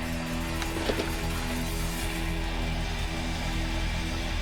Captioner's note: turkey fluttering